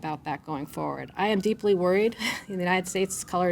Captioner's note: chuckles